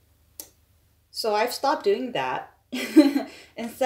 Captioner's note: laughs